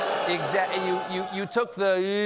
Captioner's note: booing